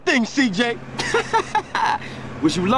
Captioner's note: laughs